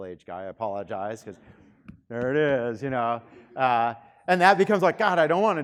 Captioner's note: pounding